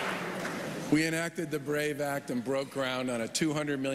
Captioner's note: applause